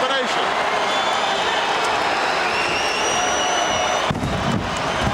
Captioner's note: audience cheering